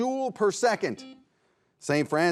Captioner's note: buzzer beeps